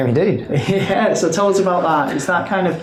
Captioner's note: laughs